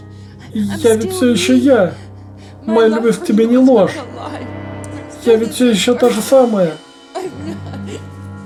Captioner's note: sobs